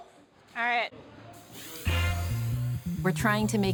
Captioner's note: airbrush hisses